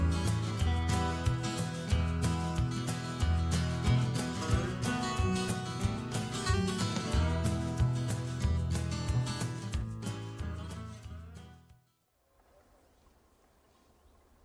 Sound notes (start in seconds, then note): 11.5 silence